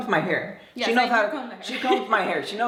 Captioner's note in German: lacht